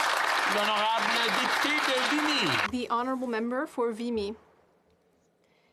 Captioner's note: applause